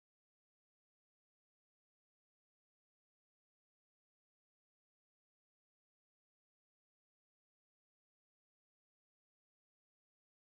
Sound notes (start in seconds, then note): none